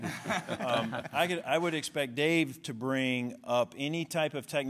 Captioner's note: laughter